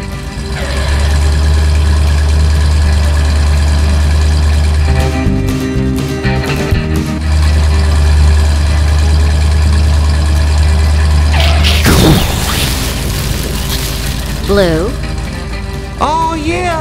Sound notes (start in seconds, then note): 10.3 engine noise; 11.2 skid; 11.4 explosion